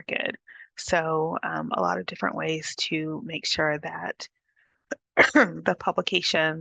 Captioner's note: coughs